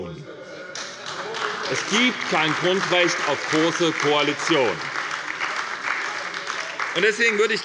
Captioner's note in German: Beifall bei der SPD